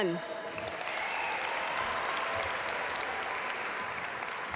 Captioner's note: audience applaud